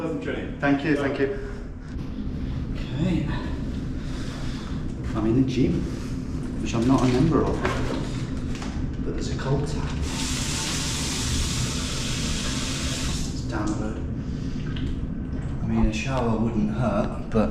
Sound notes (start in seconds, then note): 10.2 water sloshing